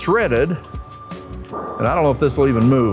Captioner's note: machinery beeping